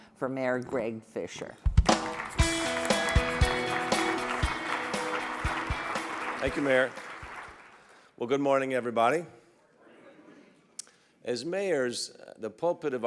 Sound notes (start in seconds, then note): 1.9 upbeat rock music; 4.1 audience clapping